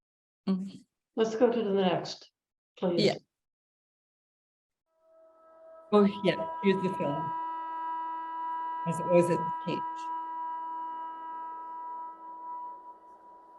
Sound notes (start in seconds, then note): 10.4 horns blowing